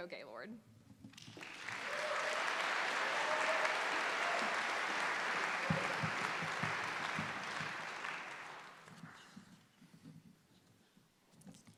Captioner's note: applause